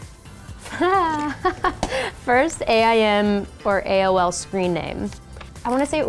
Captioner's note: laughs